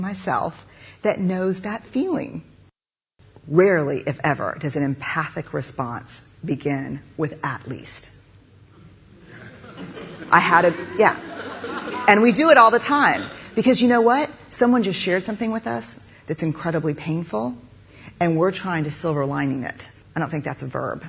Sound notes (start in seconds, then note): 9.2 laugher